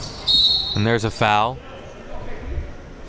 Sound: whistle blows

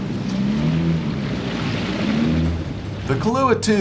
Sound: boat engine running

